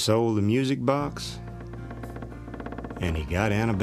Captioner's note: creaking